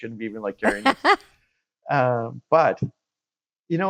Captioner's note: laughing